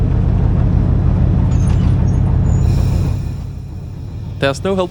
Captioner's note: engine Noise